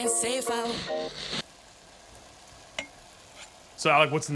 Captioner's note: beef sizzling